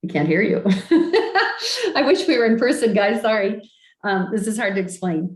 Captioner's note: laughs